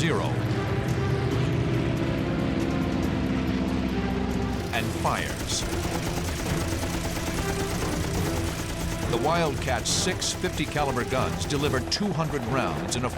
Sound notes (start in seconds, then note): 0.3 intense music; 4.5 gunshots